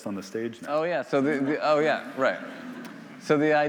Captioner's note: attendees laughing